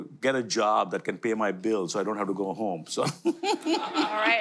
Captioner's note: audience and speaker laughter